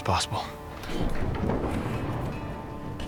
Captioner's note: door opens